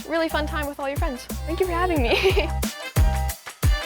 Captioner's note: laughs; upbeat music